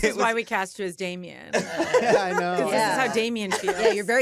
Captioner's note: laughter